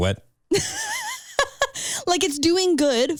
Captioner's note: laughing